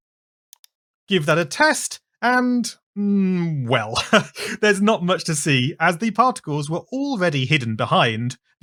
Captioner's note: laughs